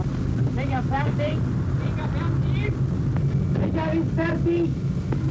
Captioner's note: speaks foreign language